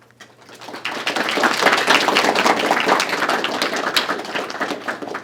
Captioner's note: applause